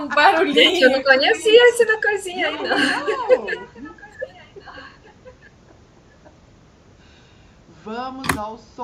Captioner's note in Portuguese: risadas; risadas